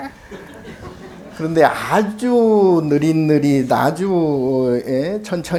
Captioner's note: speaking Korean